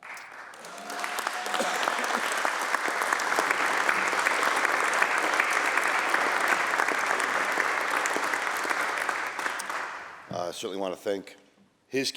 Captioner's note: applause